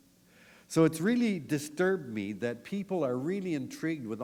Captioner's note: none